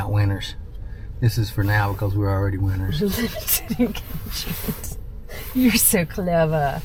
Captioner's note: laughing